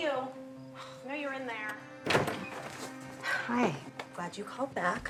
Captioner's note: sighs